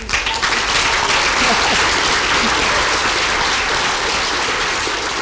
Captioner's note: applause